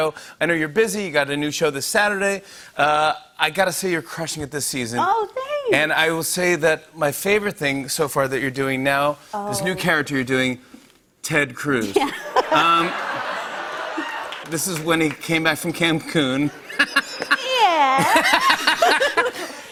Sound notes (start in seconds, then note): 11.9 laughter; 16.5 laughs